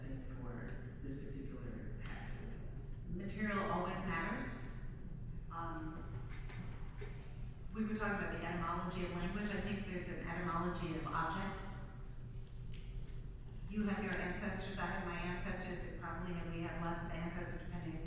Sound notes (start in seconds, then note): none